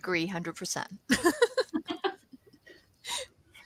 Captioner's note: laughter